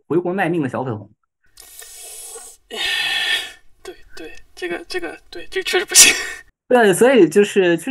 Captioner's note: hissing